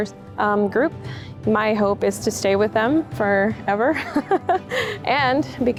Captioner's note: chuckles